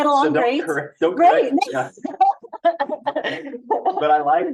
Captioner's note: laughing